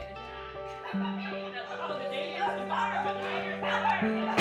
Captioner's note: group laughing